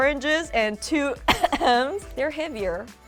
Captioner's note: fake coughing